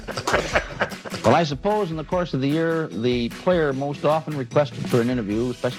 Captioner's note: laughter